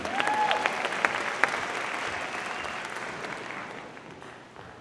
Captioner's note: audience applauding